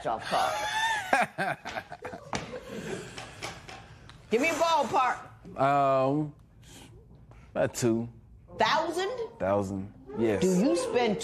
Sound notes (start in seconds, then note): 0.5 laughs